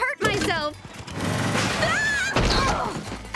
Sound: screaming

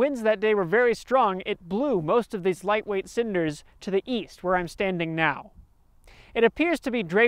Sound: the wind

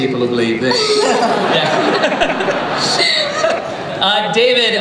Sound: laughter

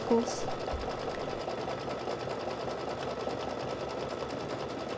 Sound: sewing machine running

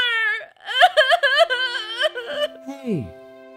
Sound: sobs

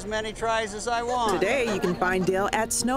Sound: voiceover

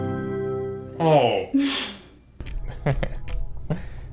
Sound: sighing; chuckling

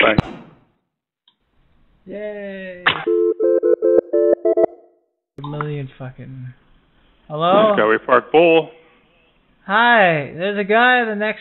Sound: phone ringing

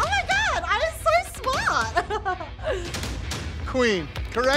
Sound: laughs

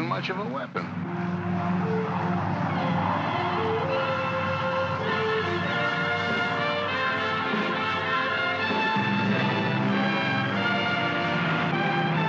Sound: aircraft rumbles; uplifting music

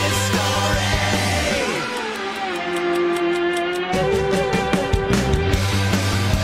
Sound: clock ticking; rock music

